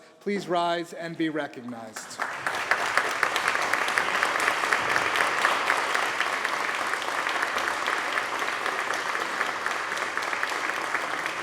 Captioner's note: applause